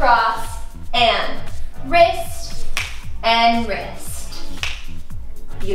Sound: fingers snap

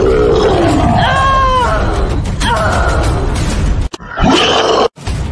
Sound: war Drums; furious Cry; war Drums

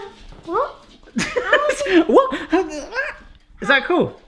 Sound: laughing

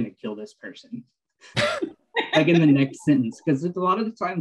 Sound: laughter

